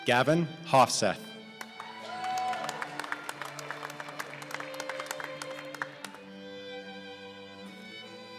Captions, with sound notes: Gavin Hovseth (applause)